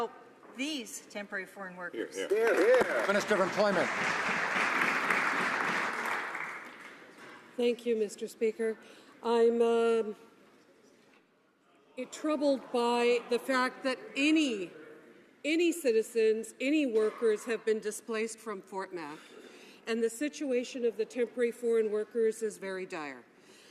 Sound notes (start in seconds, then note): 8.2 some Applause